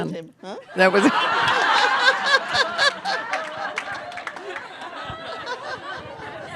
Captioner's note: laughter